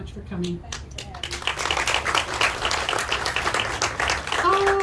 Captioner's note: audience clapping